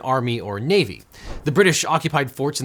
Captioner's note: air whooshing